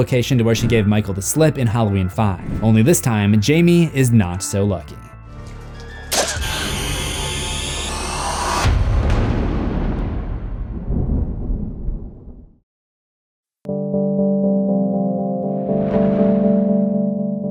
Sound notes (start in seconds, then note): 5.9 eerie music; 8.6 thunder